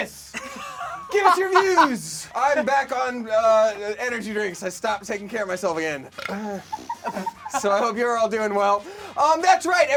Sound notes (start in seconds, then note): 0.4 laughing; 6.1 burping; 6.2 laughing